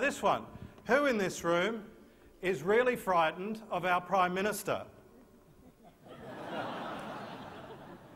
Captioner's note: laughter